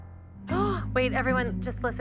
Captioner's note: gasps